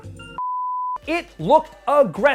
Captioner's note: beep